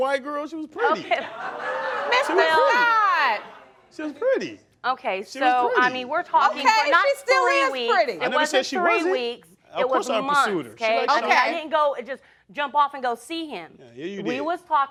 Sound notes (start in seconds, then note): 0.8 crowd laughing